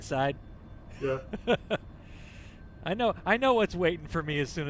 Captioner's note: laughter